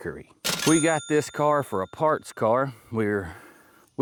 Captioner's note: bell Ringing